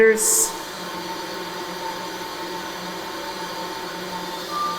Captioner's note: pipes hum